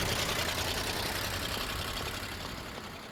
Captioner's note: engine revving